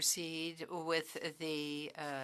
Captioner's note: speaking French